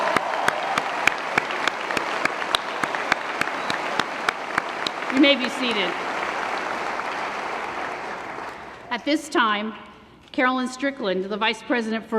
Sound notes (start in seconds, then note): 0.0 cheering & Applause; 0.0 applause